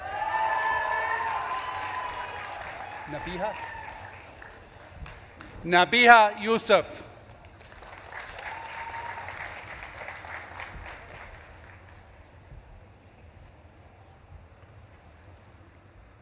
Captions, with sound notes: (audience claps and cheers) Nabeeha? Nabeeha Yusuf. (audience claps and cheers)